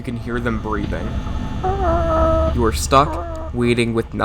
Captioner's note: animatronic breathing